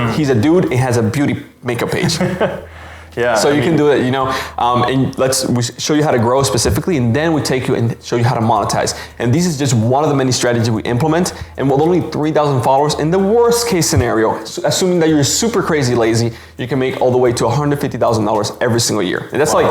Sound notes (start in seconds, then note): 1.8 laughs